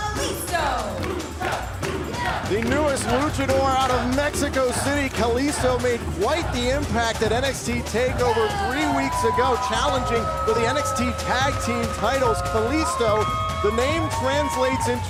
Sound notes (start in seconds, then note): 2.3 fans chanting